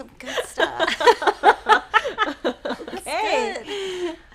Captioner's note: laughing